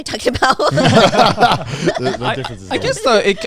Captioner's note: everyone laughing